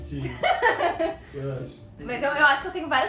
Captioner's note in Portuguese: risos